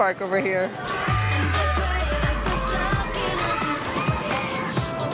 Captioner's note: people screaming